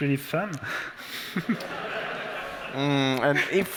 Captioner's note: laughter